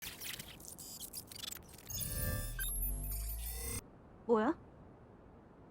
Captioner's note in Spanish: robot zumbando; jugador hablando en coreano